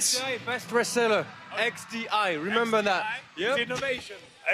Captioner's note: speaks in foreign language